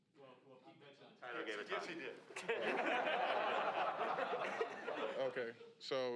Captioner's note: reporters laugh